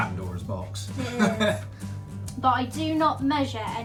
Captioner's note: laughs